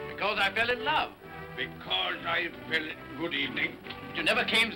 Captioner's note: mocking